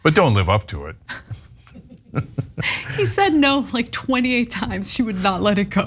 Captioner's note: laugh